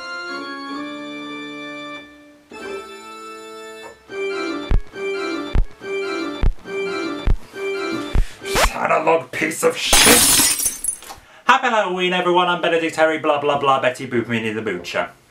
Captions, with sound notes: [music skipping] Analogue piece of shit! [record smashes] Happy Halloween., everyone. I’m Benedict Terry. Bla-bla-bla. Betty Boop, Minnie the Moocher.